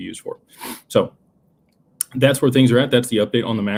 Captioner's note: snorts